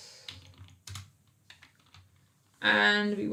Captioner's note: keyboard clicks